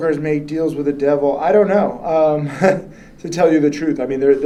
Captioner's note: laughs